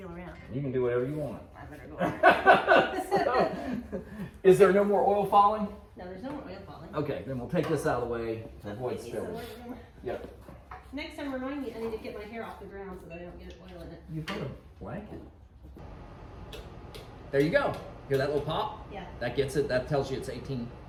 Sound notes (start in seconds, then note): 2.0 laugh